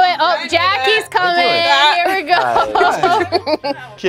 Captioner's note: laughing